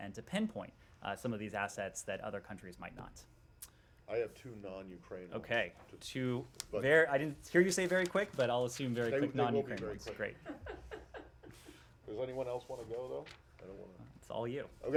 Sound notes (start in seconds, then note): 11.8 laughter